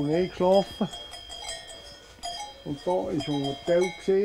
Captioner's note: clinking